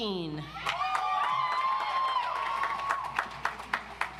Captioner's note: audience applauds